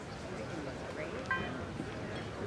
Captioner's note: phone beeps